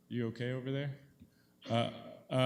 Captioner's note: person coughs